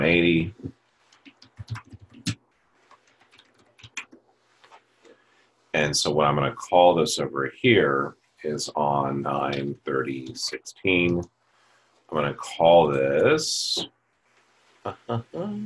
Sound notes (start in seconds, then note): 1.1 typing Sounds; 13.1 hums